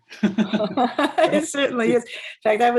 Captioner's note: laughs